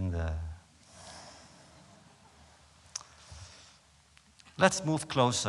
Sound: laughter

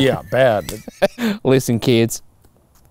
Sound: laughs

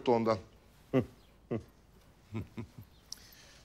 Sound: laughter

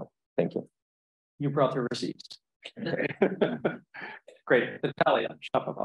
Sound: laughs

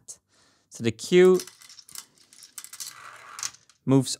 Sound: marble rolling

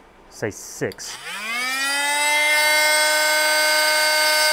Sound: saw whirring

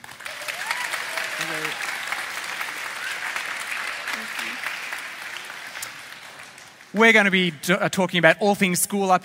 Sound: applause

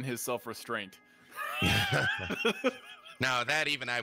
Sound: group laughing

